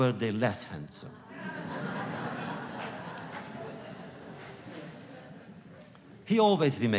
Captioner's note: laughter